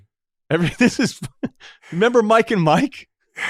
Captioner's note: laughs